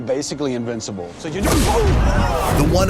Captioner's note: loud pounding